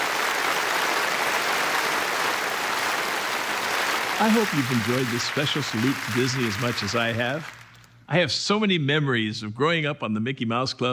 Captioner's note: applause